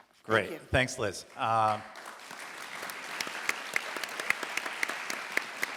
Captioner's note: audience applauds